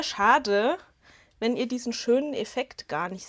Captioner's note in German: none